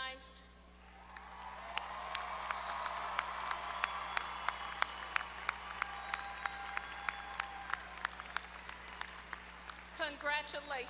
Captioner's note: applause